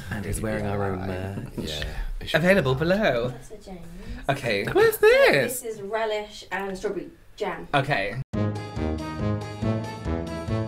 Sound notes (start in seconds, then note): none